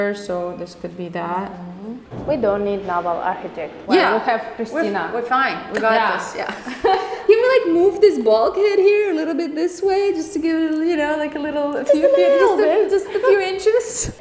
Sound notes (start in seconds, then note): 6.5 both laugh